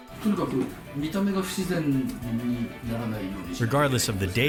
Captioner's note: speaking in foreign language